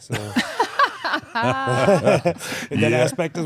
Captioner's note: laugh